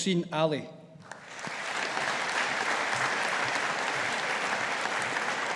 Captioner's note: audience applauding